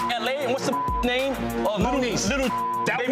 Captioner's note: beep